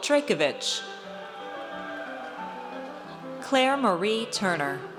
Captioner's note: audience cheers